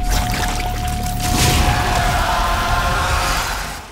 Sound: Gore Nest screaming

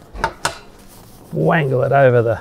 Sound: poles clanging

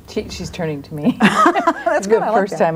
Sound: group laughs

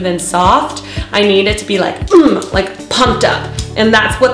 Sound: grunts

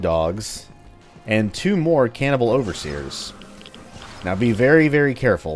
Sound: Gasbag screeching

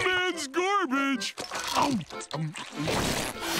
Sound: chomping

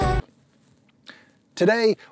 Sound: wet breath

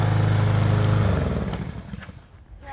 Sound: lawnmower shuts off

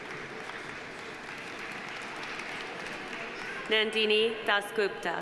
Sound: audience applauding

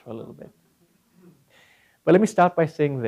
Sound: laugh

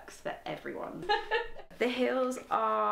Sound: laughing

